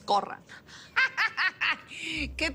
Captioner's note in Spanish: Risas